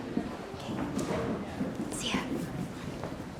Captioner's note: whispering